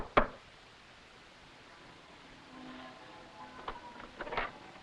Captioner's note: bells pealing